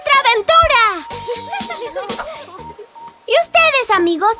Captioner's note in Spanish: Risas